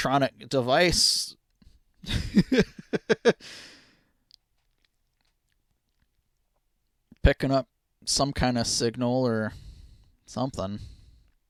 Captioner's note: laughing